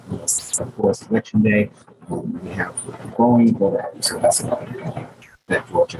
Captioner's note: speaking faintly off mic